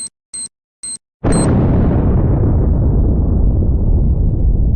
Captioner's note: explosion booms